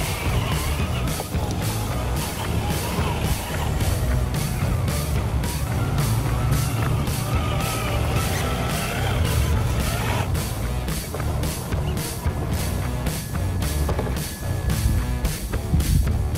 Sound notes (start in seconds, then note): 3.4 engine revving